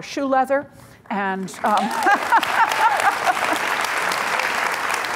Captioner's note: audience applauds